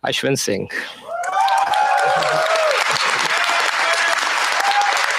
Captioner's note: cheers, applause